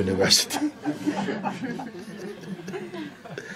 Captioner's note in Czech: smích